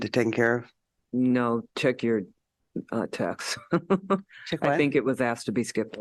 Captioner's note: laughter